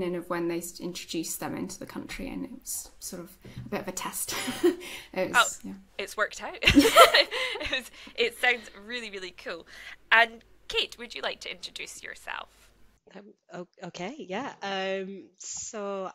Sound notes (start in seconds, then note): 4.7 laughs; 6.6 laugh